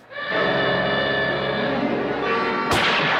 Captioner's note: alarm; gunshot